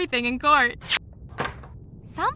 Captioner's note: door knob turns